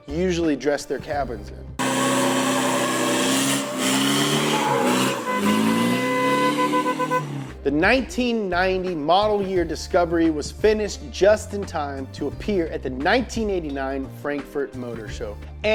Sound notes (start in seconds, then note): 1.8 engine revving; 4.8 squealing tires; 6.1 horn honking